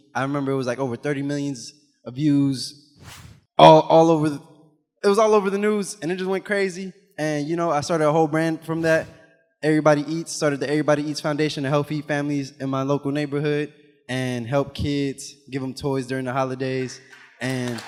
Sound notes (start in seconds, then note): 3.0 animation whooshes; 8.7 animation whooshes